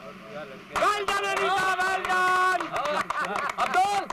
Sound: applauding

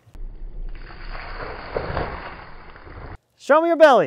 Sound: water splashes

